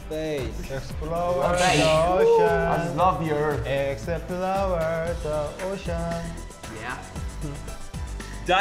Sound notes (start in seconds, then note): 1.5 whooshing